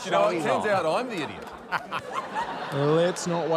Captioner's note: laughter